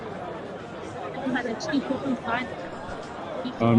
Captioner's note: background chatter